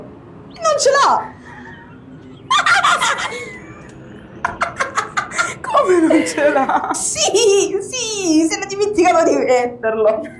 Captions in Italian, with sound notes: E non ce l'ha! (Risate) Come non ce l'ha?! Sì! Sì! Si era dimenticato di metterlo!